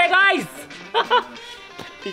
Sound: laughing

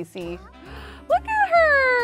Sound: gasps

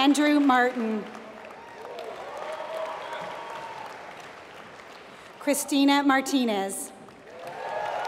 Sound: applause; applause

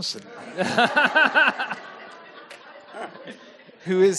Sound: audience laughing

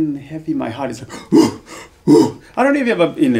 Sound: breathes heavily

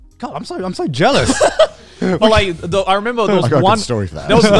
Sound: laughing

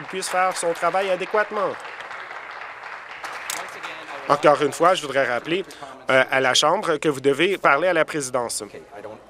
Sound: applause

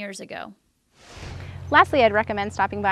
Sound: image whooshes

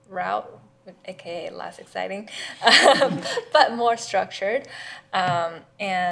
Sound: laughs

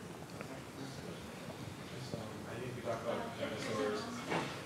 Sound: speaking off mic

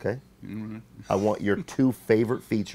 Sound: laughing

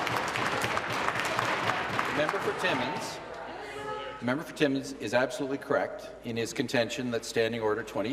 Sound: applause

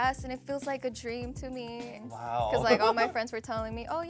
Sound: laughs

